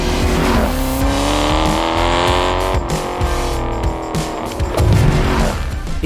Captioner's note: engine roaring; upbeat music